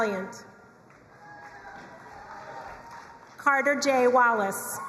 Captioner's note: crowd cheering and applauding